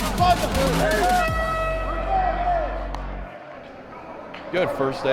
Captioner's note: horn blares